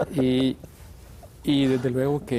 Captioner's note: ríe